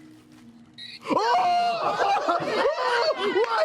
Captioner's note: squealing